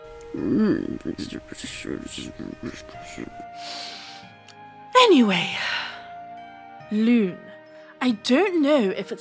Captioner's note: deep breath